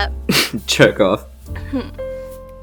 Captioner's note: snickers